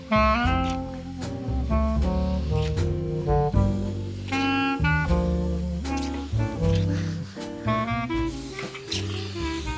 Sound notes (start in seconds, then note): 2.8 kissing; 7.1 Sam chuckles